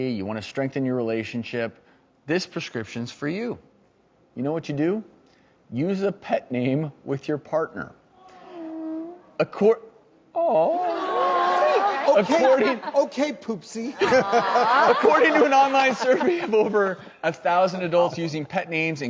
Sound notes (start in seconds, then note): 8.1 audience awws; 10.9 audience laughs